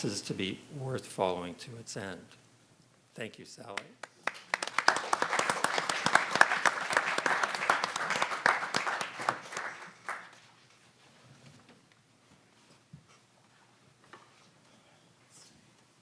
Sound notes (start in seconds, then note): 4.0 audience and panelists applaud